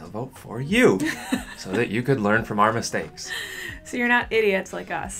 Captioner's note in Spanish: risas